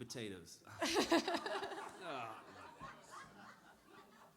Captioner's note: laughter